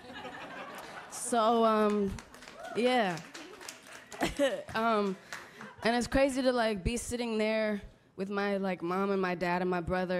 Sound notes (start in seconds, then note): 0.0 audience laughter; 1.5 applause